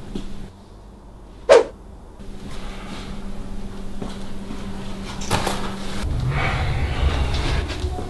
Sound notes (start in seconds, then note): 1.5 cartoonish whiplash sound